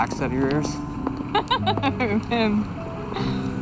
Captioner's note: laughs